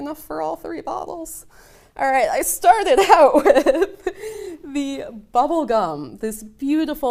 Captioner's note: laughing